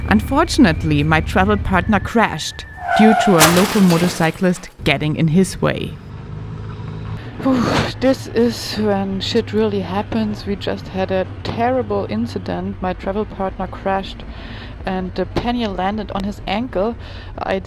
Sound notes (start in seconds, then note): 2.6 sound of motorocycle crashing